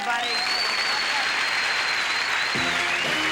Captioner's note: audience applauding; upbeat music